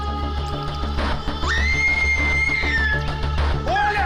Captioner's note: girl screams